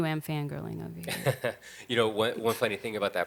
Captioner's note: laughing